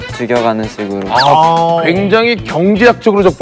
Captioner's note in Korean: 감탄